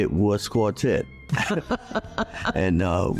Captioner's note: laughing